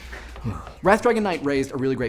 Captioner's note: sighs